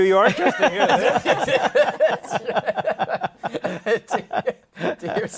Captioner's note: laughter